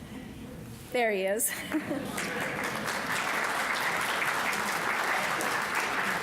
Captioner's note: audience applauding